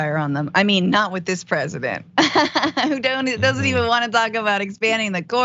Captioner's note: laugh